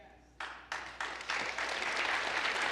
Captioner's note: applause